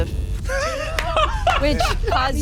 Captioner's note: laughs